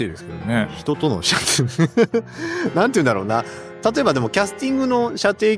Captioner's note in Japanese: 笑い